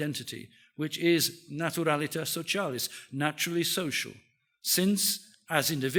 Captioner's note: speaks in foreign language